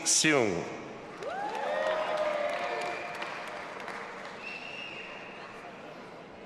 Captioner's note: audience applauding and cheering